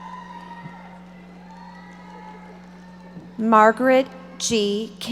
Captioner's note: audience applauding